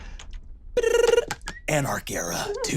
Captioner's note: trills